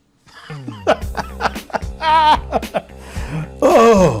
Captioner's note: laughing